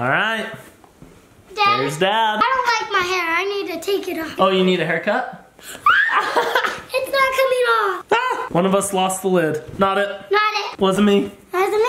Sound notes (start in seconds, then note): 5.8 screams